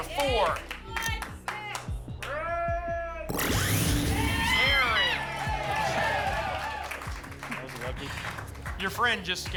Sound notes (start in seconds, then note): 2.1 cheering; 5.9 applause and cheering